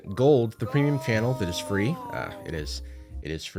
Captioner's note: disembodied voice